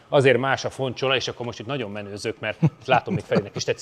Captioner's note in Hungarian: nevetés